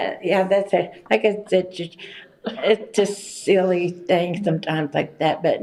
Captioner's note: laughs